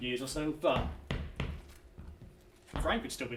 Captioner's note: foot stamping